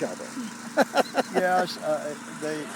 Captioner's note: laughing